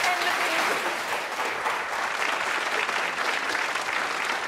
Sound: audience applauding

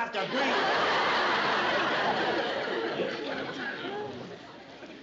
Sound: laughter

